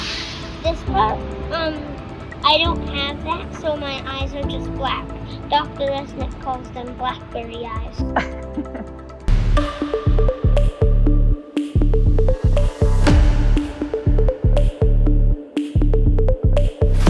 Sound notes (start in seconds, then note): 8.1 chuckling in background; 9.7 upbeat music